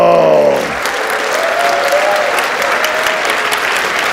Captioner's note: audience applauds